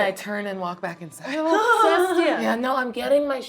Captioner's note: laughing